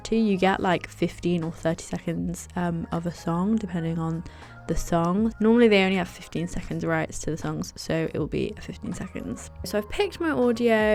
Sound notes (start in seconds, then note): none